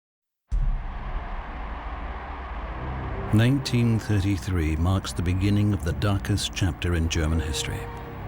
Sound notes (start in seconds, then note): 0.5 crowd cheering